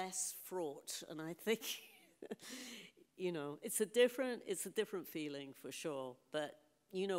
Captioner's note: laughs